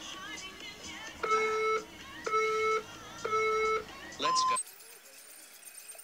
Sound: counter down timer from the phone on screen is heard

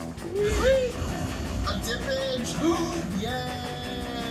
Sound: gasp

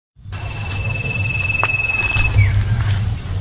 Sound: footsteps

